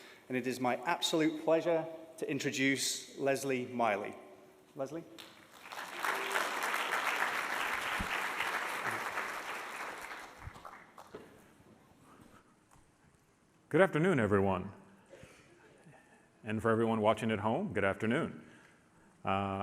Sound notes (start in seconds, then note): 5.2 audience applauds